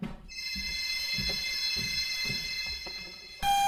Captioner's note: phone rings